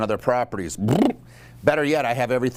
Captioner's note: lips flapping